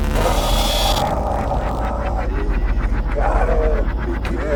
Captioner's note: electricity whooshing